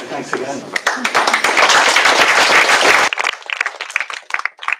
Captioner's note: applause